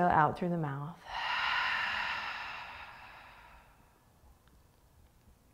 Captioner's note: exhaling